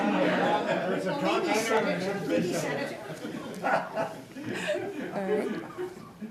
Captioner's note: laughter